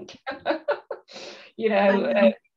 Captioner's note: laughs